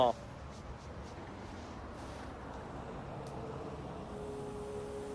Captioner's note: vehicle engines revving